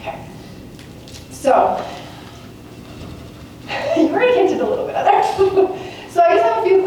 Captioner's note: laughs